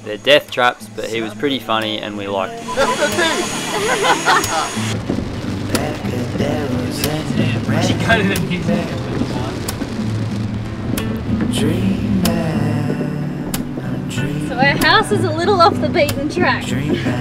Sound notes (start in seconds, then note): 2.6 laughing; 6.3 gentle music